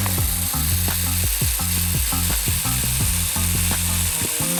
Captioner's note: funky music; chainsaw whirring